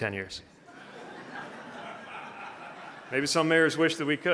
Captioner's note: audience laughing